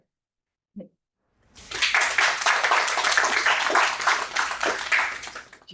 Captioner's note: applause